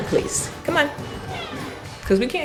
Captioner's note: cat meowing